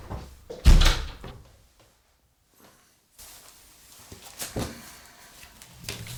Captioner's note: paper sounds